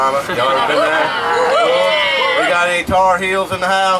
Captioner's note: cheering and hollering